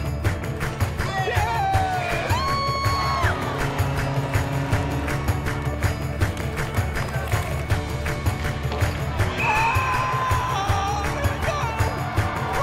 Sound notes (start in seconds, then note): 2.6 cheering; 5.1 goal horn blasting; 11.1 cheering